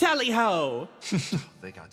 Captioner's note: Gartrinus Chuckles